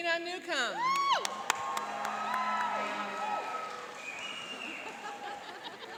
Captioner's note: cheering and applauding